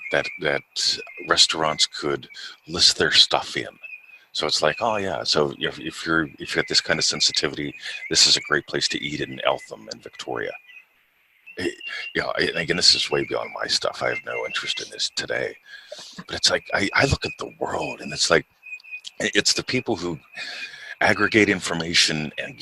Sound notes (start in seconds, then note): 15.8 chuckles